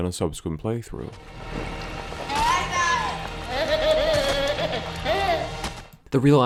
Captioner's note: the Baby Laughs